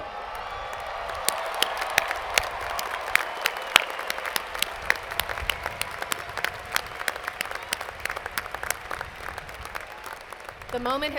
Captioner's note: cheers and Applause